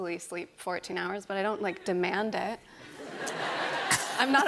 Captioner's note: laughter